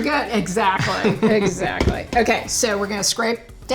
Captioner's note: laughs